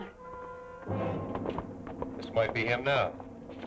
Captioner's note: horse clopping